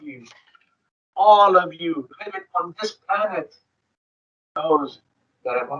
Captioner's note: speaking distorted